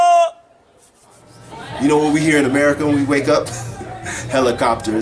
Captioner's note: laughs